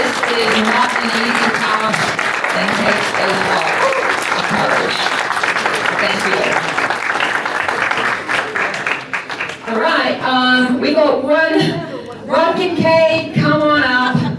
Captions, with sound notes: This is not the easy talk. Thank you. [Applause] Thank you. All right. We've got one, Rumpkin K, come on up.